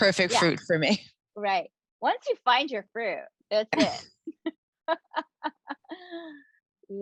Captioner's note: chuckling